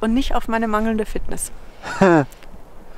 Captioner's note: laughs